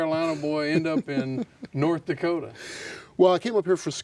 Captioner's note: laughs